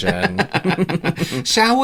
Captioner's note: evil Laugh